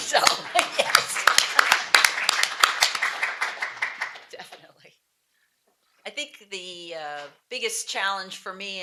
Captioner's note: applause